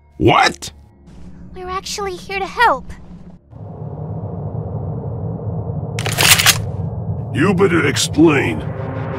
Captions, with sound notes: What? She’s actually here to help... *cocks shotgun* You better explain!